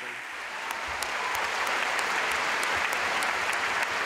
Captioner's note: audience applauding